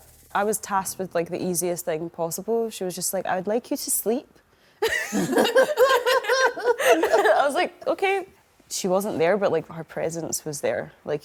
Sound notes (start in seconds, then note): 4.8 all laugh